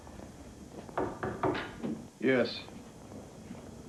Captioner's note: knocks